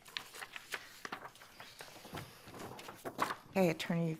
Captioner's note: paper rustling